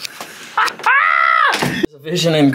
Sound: laughing

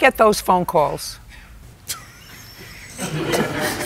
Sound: laughs

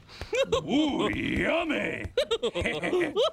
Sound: laughing

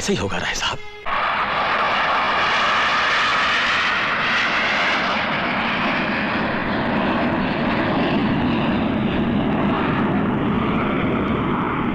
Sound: engine roar

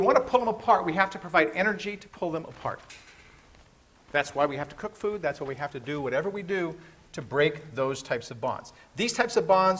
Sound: rustling continues

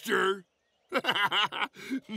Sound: laughing

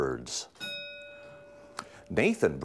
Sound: ding

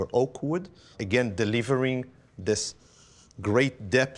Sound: sniffs

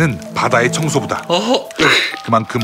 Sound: exclaiming

